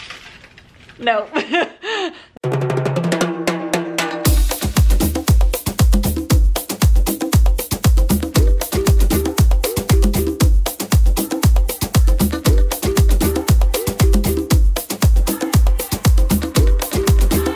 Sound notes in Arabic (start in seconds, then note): 1.3 يضحك; 2.9 موسيقى نطاطة متفائلة